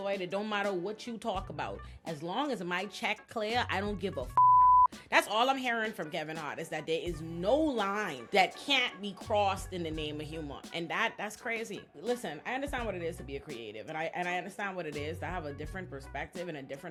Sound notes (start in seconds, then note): 4.3 beep